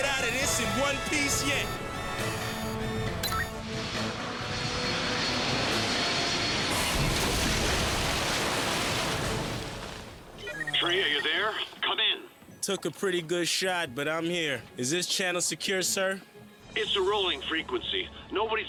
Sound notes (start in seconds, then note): 6.6 whooshing; 8.8 splash